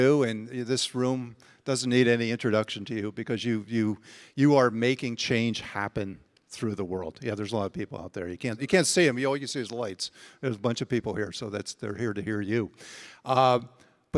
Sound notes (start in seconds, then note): none